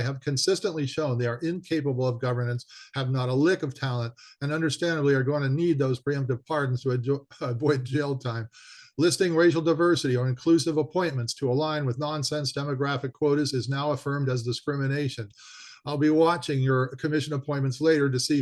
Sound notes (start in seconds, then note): 7.3 chuckling